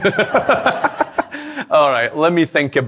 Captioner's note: laughter